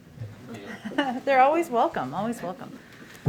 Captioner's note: laughs